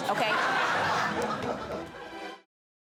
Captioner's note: audience laughing